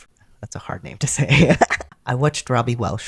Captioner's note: laughter